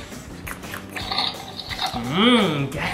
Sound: eating sounds

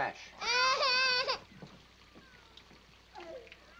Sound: Walda crying

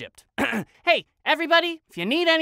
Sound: clears throat

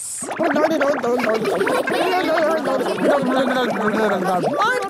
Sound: children laughing

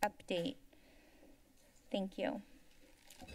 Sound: silence

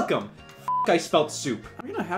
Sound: beep

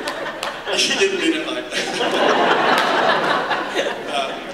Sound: laughter

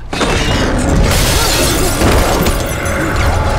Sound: glass shatters; clamoring

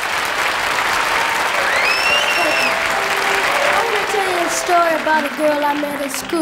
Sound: crowd applauds and cheers

